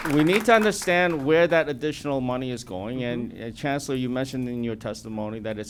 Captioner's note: applause